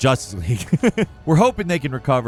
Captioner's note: chuckles